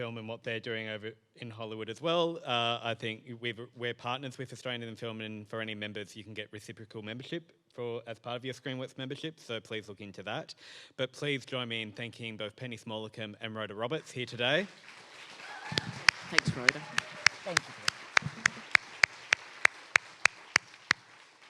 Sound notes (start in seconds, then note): 14.9 audience applauds